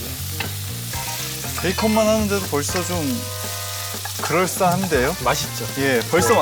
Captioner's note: sizzling with delicious smell